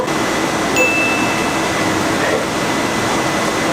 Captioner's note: ding